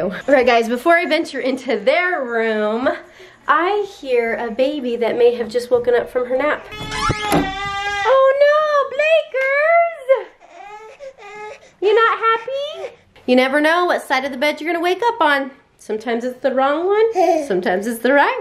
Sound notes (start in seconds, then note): 6.4 baby crying; 10.4 baby whimpering; 17.5 baby laughs